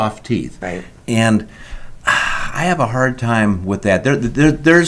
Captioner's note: sighs